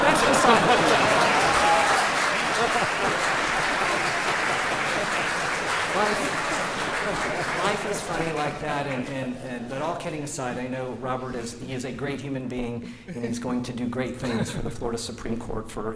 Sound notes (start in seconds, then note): 2.1 laughter; 2.8 applause